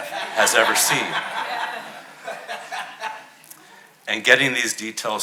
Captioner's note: audience laughing